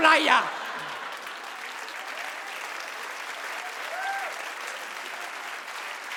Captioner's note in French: le public applaudit